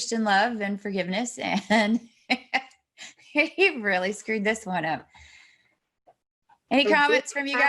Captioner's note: laughs